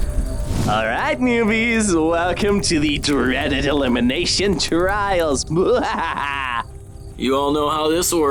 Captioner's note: evil laugh